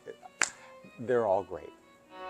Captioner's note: hands clapping